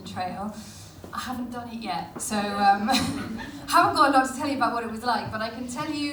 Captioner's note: laughs